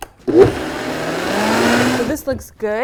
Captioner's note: blender whirring